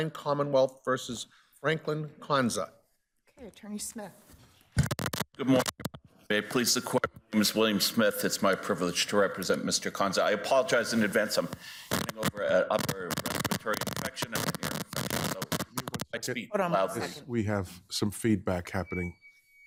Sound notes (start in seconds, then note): 15.3 audio glitching